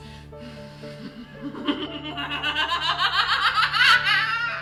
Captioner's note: Arizona laughs maniacally